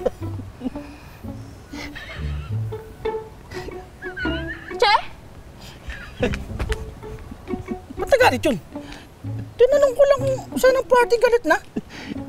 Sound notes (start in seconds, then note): 0.1 boys laughing; 5.4 continuous Laughing